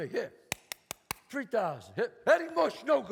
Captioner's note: claps